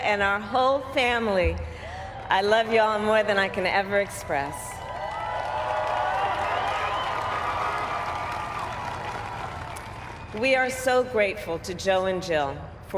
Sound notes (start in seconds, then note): 4.2 cheers